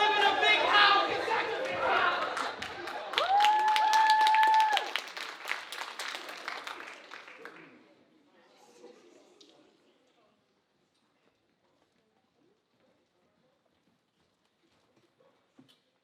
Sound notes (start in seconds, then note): 3.7 audience applauding